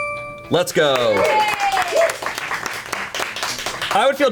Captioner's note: colleagues applauding